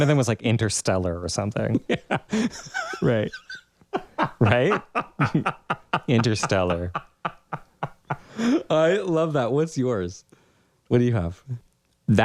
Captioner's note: laugh